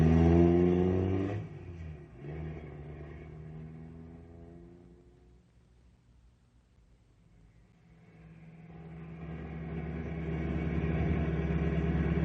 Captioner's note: engine revving